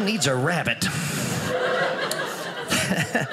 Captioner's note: audience laughing